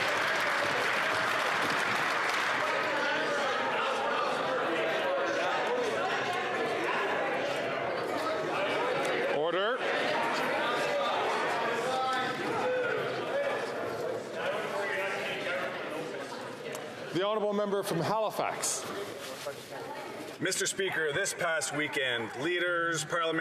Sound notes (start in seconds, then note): 1.9 some Applause